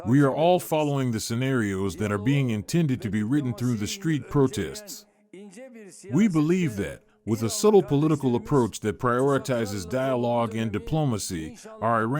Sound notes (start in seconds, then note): 6.1 protests